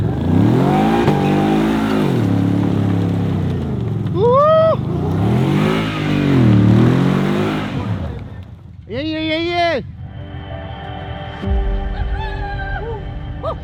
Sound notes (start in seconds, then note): 0.0 engine vrooming